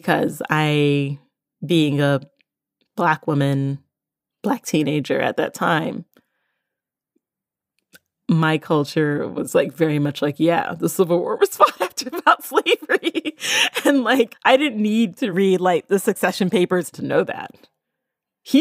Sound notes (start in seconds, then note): 11.7 laughs